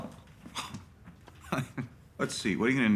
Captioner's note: laughs